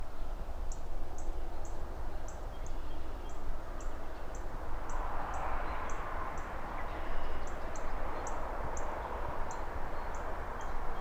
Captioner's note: ambient bird chirps, cars passing by, cityscape noises